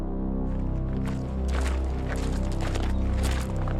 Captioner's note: soldiers marching